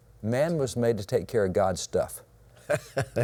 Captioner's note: laughs